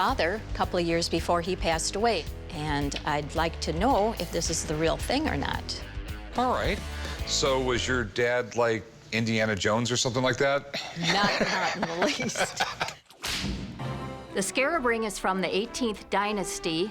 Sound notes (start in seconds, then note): 10.8 laughs; 10.9 laughter; 13.2 whip cracks